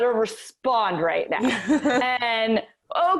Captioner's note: laughing